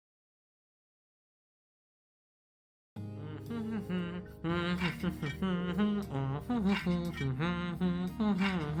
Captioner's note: happy noises